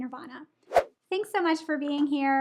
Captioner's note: air whooshes